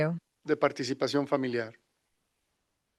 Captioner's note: non-english speech